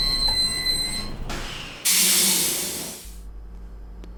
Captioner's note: sound of train stopping